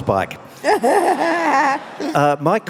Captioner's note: laughing